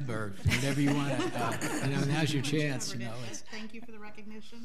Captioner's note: all laughing